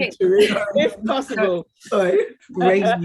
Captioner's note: woman chuckling